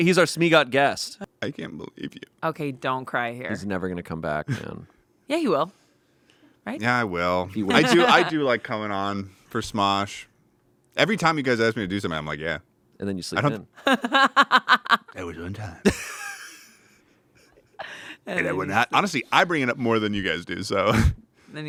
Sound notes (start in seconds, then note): 13.8 laughs; 15.8 everyone laughs